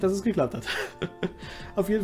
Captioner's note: chuckels